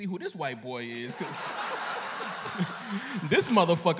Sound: laughter

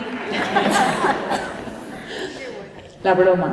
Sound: laughter

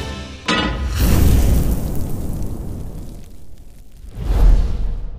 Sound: pan clanks; burst of flames

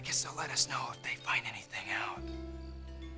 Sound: <i> whispering</i>

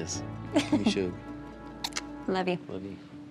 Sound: smooch

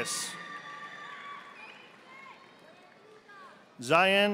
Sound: audience applauding

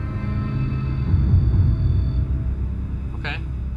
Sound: machinery whirring

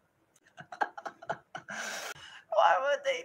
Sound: insert laughing

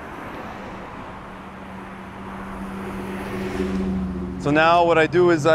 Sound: traffic humming

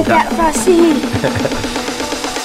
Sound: laughs; techno music

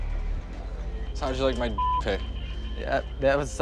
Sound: beeping

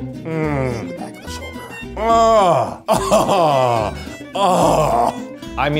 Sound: groaning

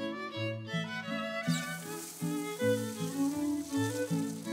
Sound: mellow classical music; water sloshing

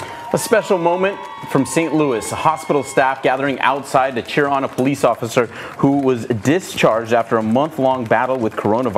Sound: applause

